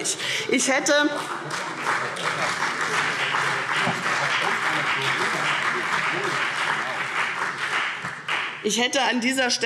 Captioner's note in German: Beifall CDU und BÜNDNIS 90/DIE GRÜNEN